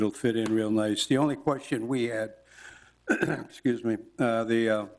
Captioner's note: clears throat